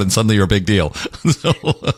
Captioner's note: laugh